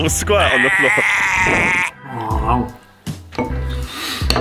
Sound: retching

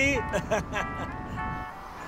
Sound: Ranga chukles

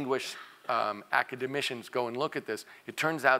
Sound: cough

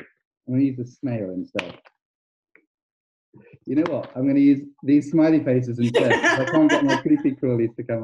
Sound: laughs in background

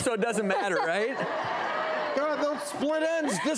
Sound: audience laughing

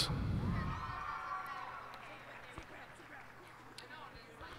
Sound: cheers and applause

